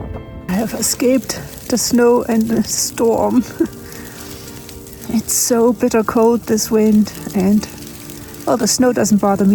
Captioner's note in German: Lacht